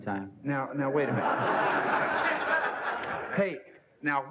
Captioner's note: laughter